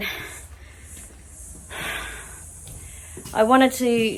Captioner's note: sighs heavily